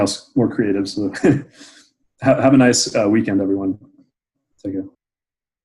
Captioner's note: laughs